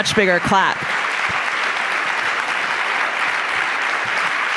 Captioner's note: applause